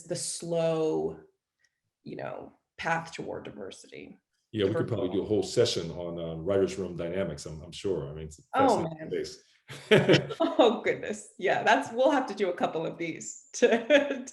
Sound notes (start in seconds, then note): 9.7 laughs; 13.6 laughs